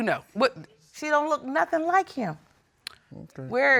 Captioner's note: clicks tongue